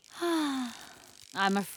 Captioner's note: gasp